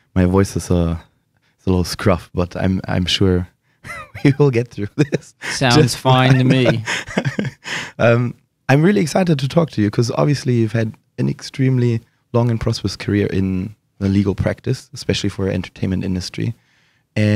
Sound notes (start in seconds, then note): 3.8 laughing